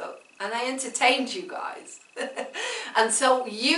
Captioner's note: laughs